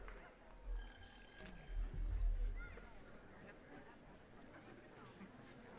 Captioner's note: attendees chattering